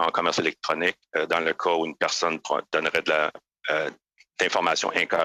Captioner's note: speaking French